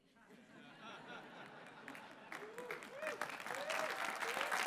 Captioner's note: clapping